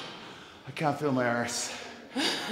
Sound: laugh

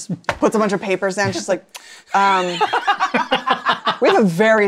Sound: laughter

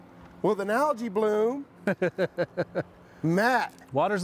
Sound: chuckles

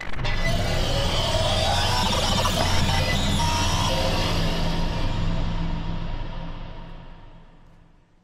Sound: glitch sounds

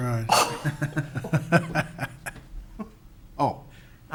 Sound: laughing

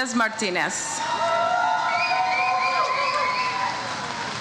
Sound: audience cheers

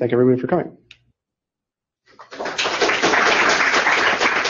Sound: applause

